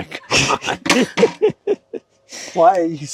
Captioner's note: both laughing